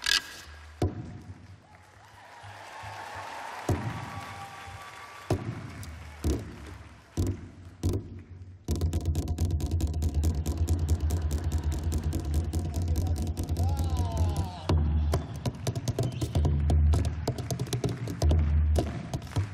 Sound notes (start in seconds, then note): 2.4 applause; 5.3 instrumental